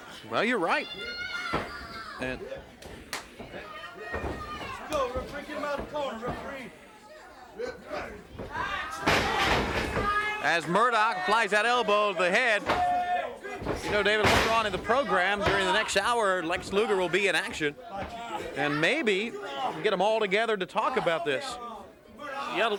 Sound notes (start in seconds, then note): 1.4 hands thudding; 8.3 body thudding; 9.0 blows thudding